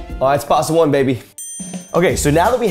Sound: bell dings

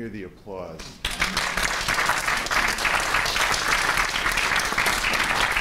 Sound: applause

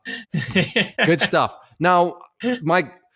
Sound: laughs

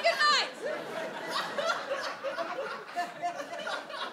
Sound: audience laughs

